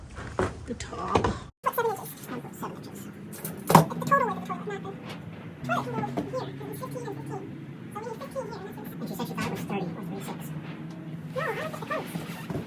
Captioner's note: sped up mouse voices